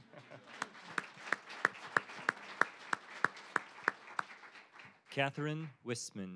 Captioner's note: applause